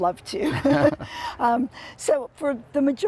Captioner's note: laughs